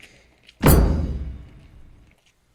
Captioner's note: thud